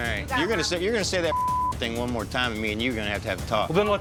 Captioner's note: beep